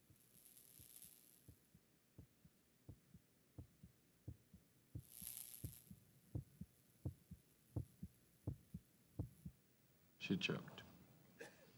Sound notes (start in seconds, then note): 2.8 heart beating